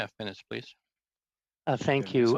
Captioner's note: speaking French